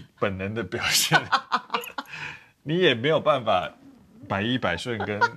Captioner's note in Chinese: 哈哈哈